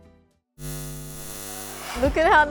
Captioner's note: cat eyes buzzing